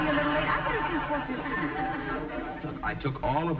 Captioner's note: audience chuckling